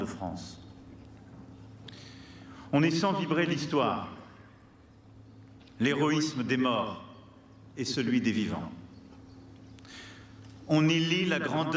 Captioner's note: speaking french